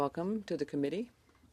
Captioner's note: speaking French